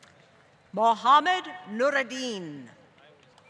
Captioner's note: applause